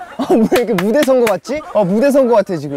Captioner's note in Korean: 짝짝짝짝